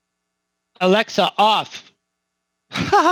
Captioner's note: laughs